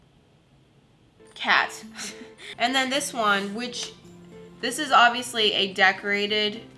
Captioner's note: airy chuckle